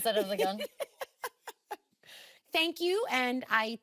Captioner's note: laughing